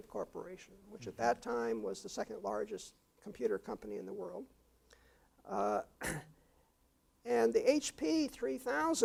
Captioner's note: cough